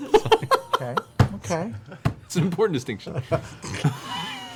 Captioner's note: laughs